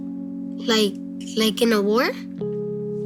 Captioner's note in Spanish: none